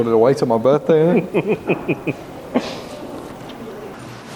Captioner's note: laughs